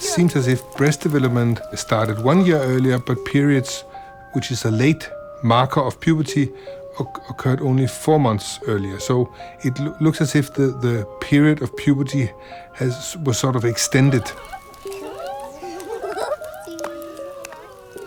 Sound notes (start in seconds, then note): 14.8 little girl giggling